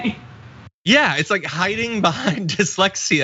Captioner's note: laugh